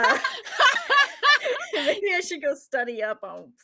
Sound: laughing

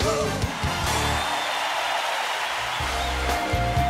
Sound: cheering; groovy music

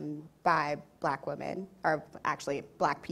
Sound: none

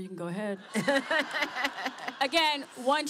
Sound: laughter

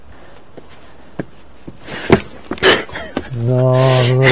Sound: stumbling noise and laughter

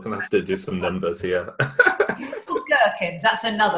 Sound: laughing

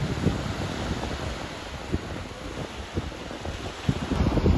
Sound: waves rushing

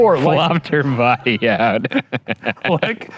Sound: laughing

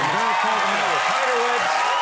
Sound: audience applauds

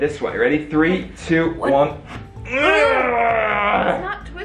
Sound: both grunting

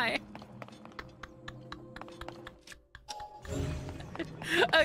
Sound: laughter

